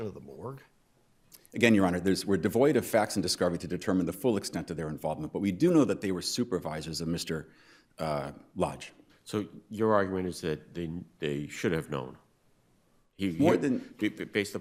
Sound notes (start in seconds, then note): none